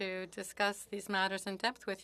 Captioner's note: speaking French